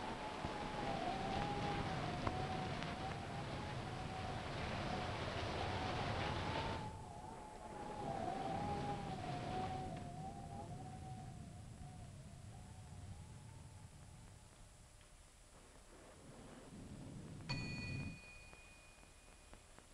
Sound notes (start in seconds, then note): 7.8 thunder rumbling; 7.8 wind howling; 17.5 bell dings